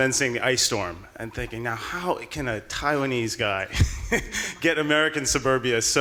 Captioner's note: laughing